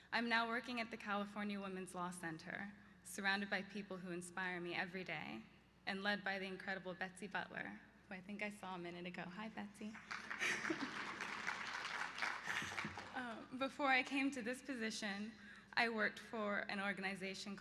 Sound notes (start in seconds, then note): 10.1 laughs; 11.9 applause